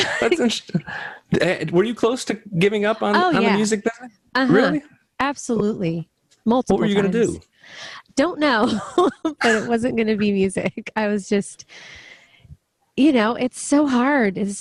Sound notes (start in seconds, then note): 8.4 laughs